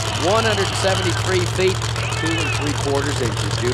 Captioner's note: voiceover